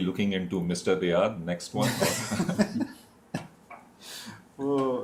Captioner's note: laughter